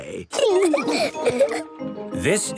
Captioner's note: laughing